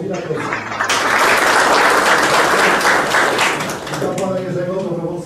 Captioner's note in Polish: oklaski